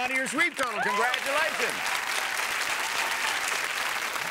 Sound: audience applauding

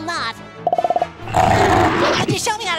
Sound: roaring

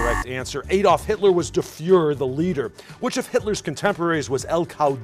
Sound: buzzer

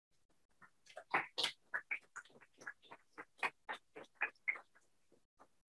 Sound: clapping

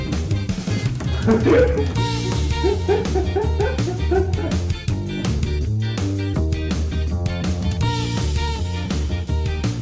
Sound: bark

